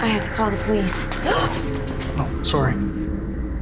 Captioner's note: gasps